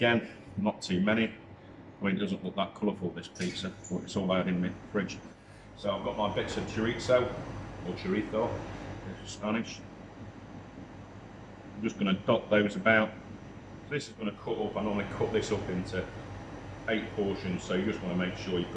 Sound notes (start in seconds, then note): 9.3 Spanish